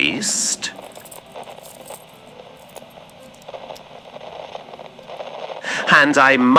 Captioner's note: clips fx